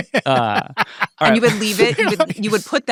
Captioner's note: laughing